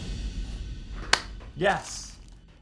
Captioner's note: clap